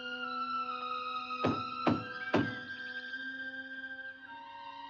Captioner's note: eerie music; knocking on door; eerie music